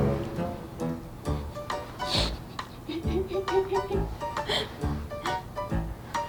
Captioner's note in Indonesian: tertawa